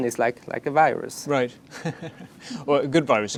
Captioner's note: laughs